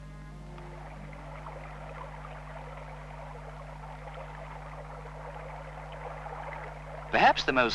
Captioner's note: sound of a stream